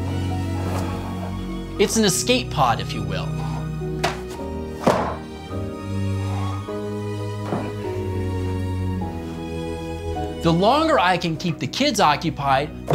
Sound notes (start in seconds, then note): 0.3 soft music; 4.7 books clunking